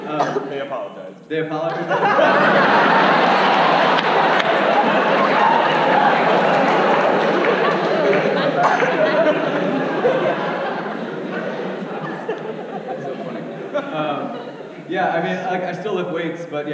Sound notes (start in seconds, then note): 2.4 audience laughs